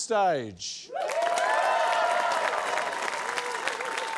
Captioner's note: cheering, applause